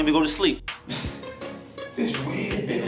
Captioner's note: laughs